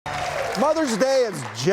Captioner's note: applause